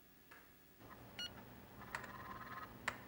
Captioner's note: beeps